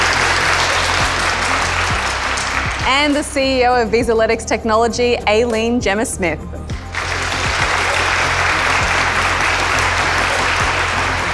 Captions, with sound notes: And the CEO of Vizalytics Technology, Aileen Gemma Smith. (applause)